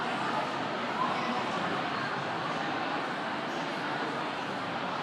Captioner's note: people chattering